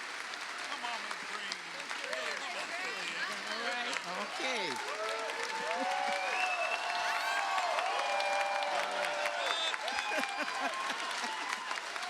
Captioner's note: cheers and applause